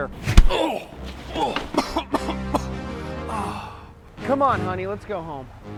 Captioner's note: groans and coughs